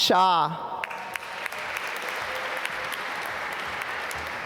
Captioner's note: applause